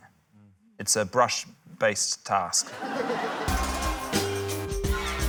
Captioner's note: laughter; quirky music